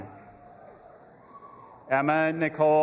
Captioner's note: audience applauding and cheering